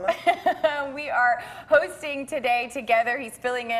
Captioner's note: laughing